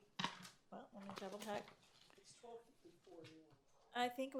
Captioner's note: speaks faintly